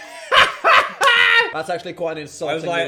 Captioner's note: laughing